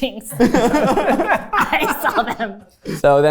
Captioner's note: everyone laughs